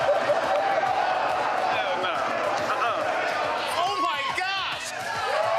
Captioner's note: laughter